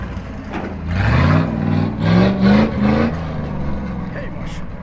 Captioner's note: revving up the engine